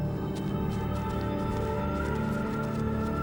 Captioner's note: wind howling